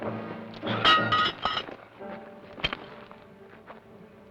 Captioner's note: pan clangs